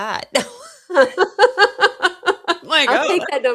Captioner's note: laughter